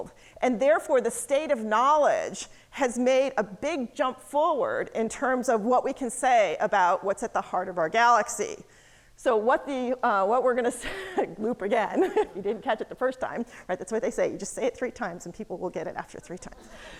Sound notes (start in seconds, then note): 11.7 laughs